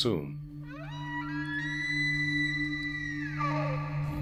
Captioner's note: animal sounds